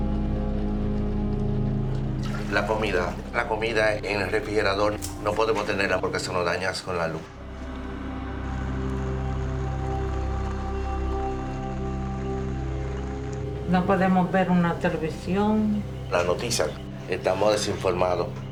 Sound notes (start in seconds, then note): 13.2 woman speaking Spanish; 15.3 man speaking Spanish